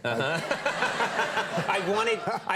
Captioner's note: Conan and audience laughing